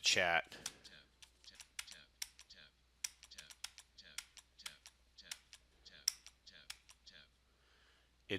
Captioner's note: computer reads "Tab," "Tab," Tab